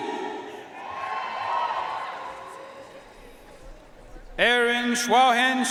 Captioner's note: audience cheering and applauding